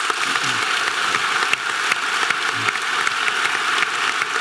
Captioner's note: audience applause